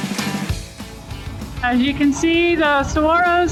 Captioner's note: talking in helmet